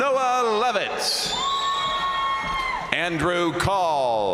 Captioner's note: crowd cheering